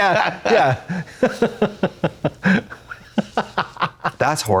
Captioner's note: Katya chuckles